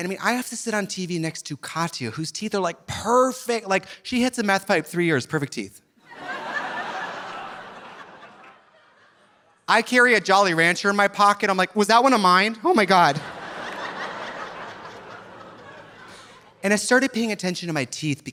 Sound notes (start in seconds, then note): 6.0 audience laughing; 12.9 audience laughing